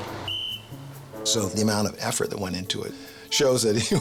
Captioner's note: whistle toots